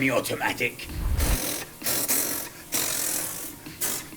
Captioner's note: imitating a gun firing